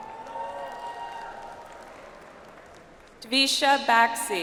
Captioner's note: audience applauds